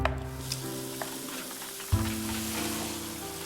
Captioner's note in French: eau qui coule